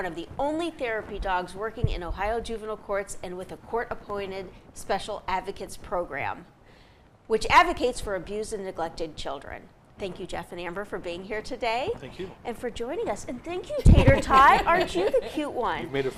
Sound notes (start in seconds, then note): 13.8 group laughing